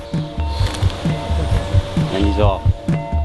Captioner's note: wings flaps